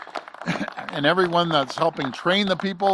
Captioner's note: applause